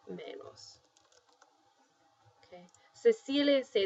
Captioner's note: spanish; speaking spanish